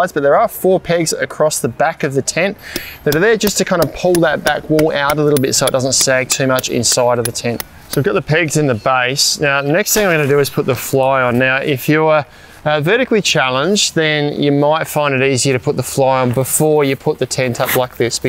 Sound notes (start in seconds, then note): 2.7 metal clinging